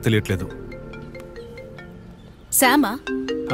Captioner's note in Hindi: फोन की घंटी बजना